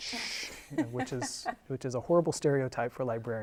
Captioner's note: laughing